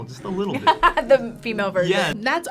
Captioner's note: laughs